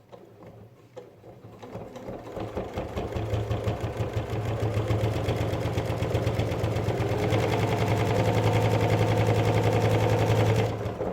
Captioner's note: sound of sewing machine